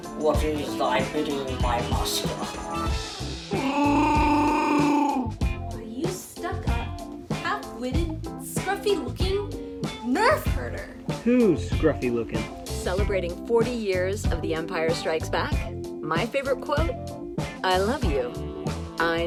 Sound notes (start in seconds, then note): 3.5 chewbacca vocalization